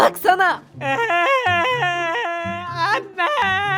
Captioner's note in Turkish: Ağlama sesi